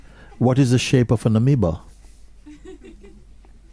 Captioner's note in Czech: smích